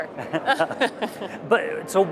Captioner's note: laughter